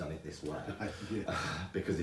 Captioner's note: chuckling